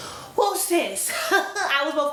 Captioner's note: laughs